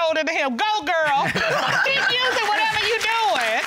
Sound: audience clapping

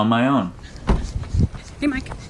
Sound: car door slams

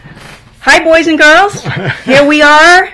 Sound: male laughter

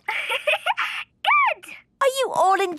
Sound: giggling

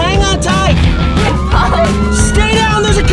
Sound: sirens blaring

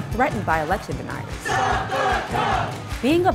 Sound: chant

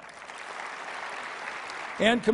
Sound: applause

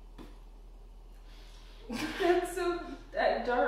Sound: women chuckle

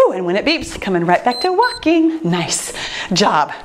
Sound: timer beeps

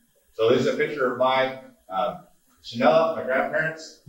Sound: speaking Navajo

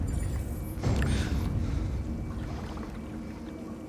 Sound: gasp

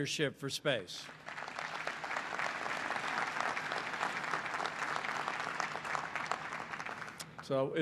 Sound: applause

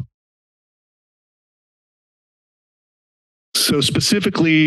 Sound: silence

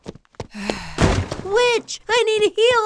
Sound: footsteps running; sigh

